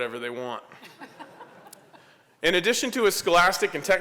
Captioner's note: laughter